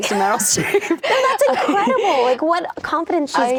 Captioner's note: laughing